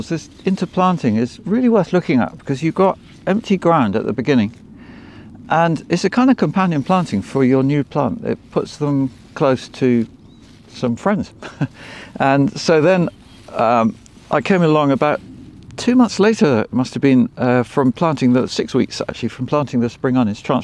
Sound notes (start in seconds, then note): 11.4 laughs